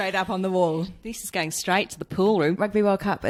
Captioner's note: aussie accent, a la the castle